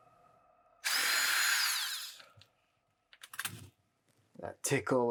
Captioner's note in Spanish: Zumbido del taladro